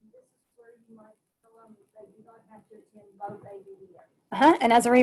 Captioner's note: murmurs